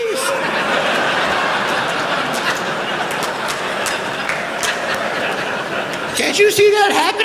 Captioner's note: laughter